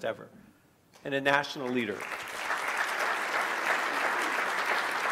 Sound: clapping

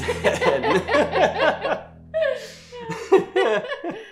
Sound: couple laughing

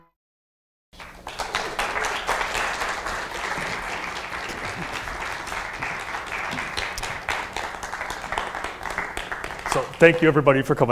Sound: applause

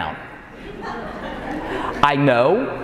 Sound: audience laughing

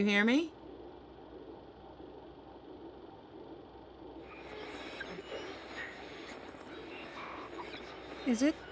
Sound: static

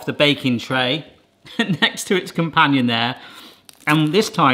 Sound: laughs

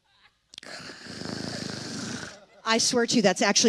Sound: snores heavily

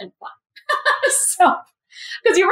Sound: laugh

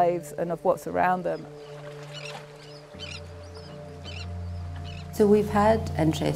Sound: birds chirping and water lapping

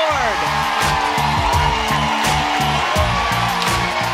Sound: crowd cheering

